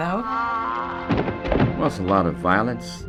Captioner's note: body collapsing